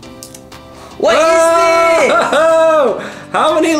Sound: yelling excitedly

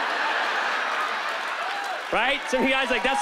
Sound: laughter

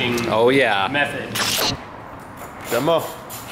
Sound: static

